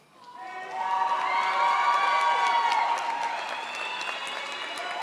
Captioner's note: crowd applauds